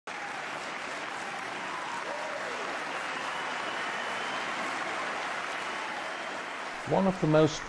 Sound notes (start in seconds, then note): 0.0 cheering